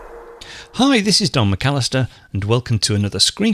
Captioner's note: voiceover